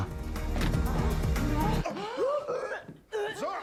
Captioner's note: Brooke moaning; Zara gasps